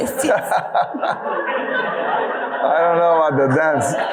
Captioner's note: audience laughing